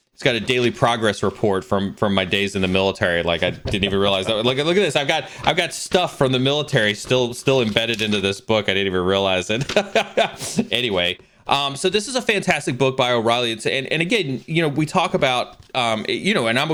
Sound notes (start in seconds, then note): 9.4 laughs